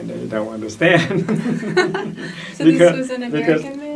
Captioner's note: laughs